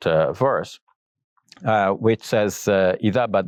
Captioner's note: speaks Arabic